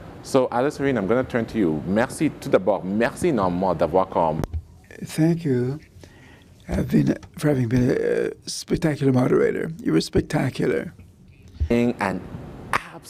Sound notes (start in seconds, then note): 4.4 speaking in French